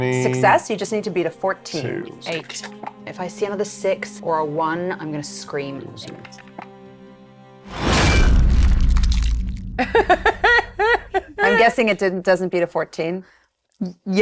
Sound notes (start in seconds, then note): 9.8 laughing